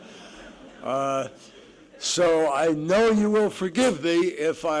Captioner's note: laughter